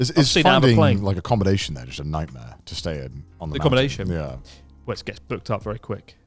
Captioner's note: none